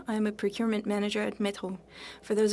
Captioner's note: speaking French